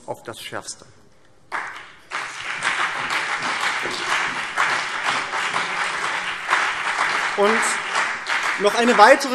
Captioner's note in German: Beifall